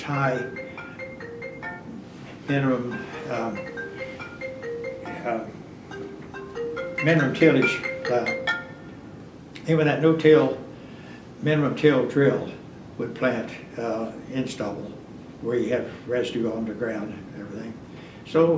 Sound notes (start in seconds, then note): 5.8 phone rings